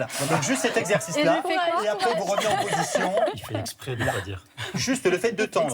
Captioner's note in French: rires